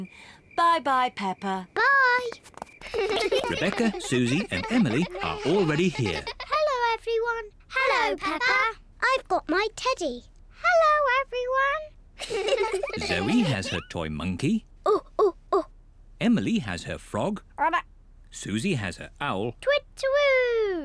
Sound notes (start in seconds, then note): 15.1 hoots